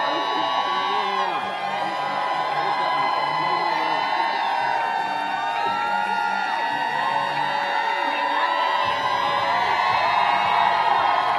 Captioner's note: applause